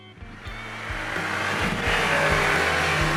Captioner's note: music, Engine Roars